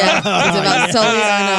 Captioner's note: laughing